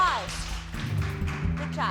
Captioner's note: applause